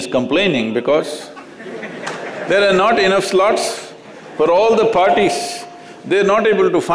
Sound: laughter

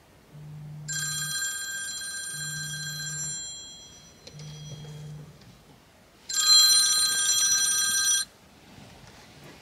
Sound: alarm sound

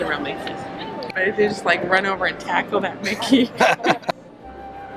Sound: laughing

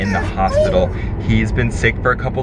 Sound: dog whining

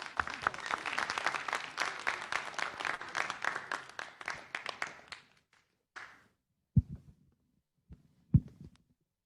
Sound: applause

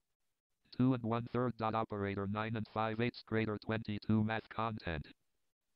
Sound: synthesized speech

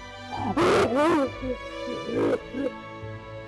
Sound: screams

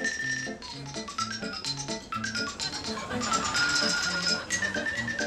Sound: whimsical xylophone music; audience laughing

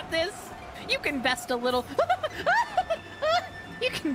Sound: panic Noises

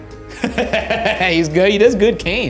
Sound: laughs

